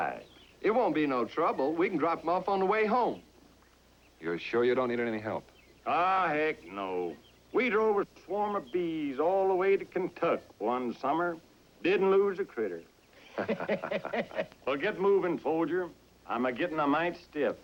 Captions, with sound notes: IT WON'T BE NO TROUBLE. WE CAN DROP 'EM OFF ON THE WAY HOME. YOU'RE SURE YOU DON'T NEED ANY HELP ? AW, HECK NO. WE DROVE A SWARM OF BEES ALL THE WAY TO KENTUCK' ONE SUMMER. - DIDN'T LOSE A CRITTER. - [ Laughter ] WELL, GET MOVIN', SOLDIER. I'M A-GETTIN' A MITE STIFF.